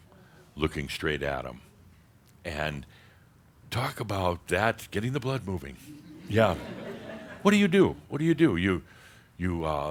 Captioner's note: more chuckles